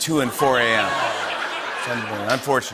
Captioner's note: laughter and applause